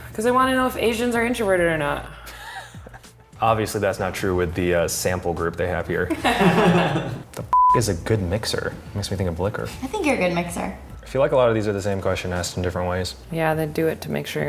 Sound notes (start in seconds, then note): 2.3 laughing; 6.1 laughing; 7.5 beep